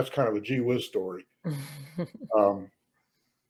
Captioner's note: laughs